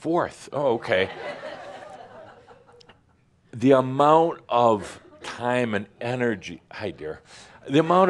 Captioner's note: more laughter